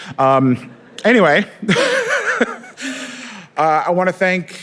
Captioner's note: laughs